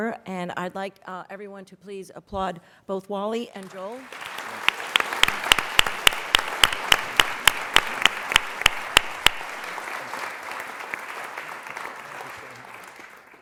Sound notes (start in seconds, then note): 4.8 applause